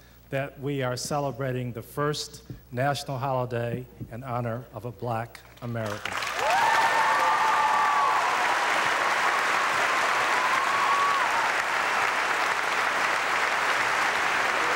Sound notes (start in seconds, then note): 5.8 audience applauding